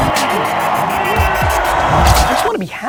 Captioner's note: upbeat music; crowd cheering